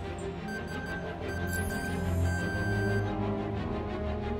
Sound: short beeps followed by long beep

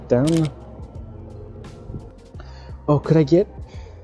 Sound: camera clicking

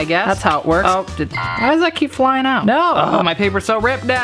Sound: beep

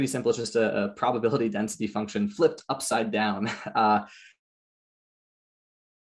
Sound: chuckles

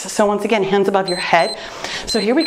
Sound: timer beeps

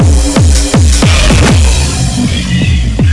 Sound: pain sounds

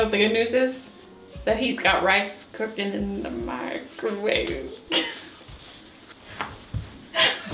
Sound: laughs

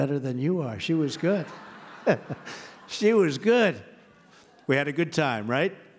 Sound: laughter

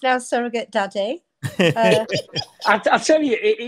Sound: group laughing

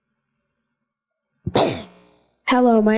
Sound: cough

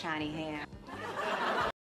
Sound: laughs

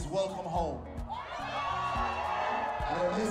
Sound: cheering

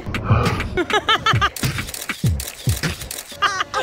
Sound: laughs; camera clicking; laughs

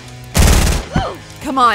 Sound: gun blasting

